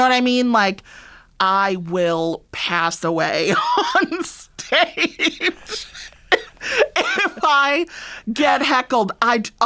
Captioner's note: laughter